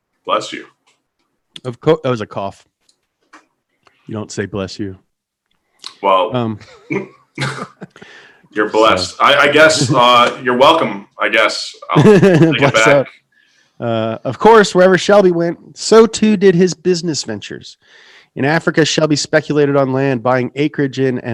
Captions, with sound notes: - Bless you. - That was a cough, you don't say bless you. - Well, you're blessed. I guess you're welcome. I guess I can't take it back. - (laughs) Backs up. Of course wherever Shelby went, so too did his business ventures. In Africa, Shelby speculated on land buying acreage in